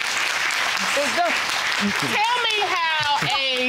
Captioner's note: chuckles; audience clapping